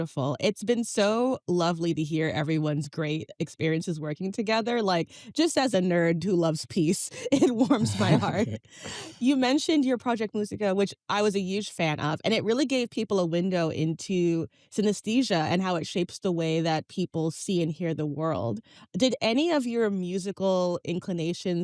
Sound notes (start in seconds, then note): 7.2 chuckles